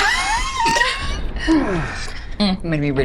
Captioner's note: chuckles